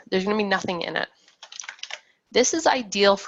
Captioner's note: keyboard keys clacking